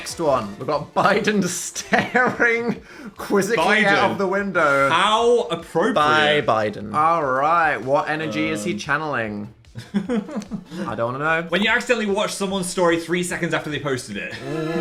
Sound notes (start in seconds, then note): 9.8 laughs; 14.3 dramatic music